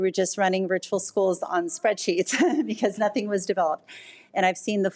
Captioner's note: laughs